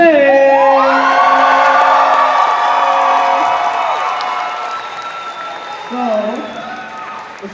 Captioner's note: cheering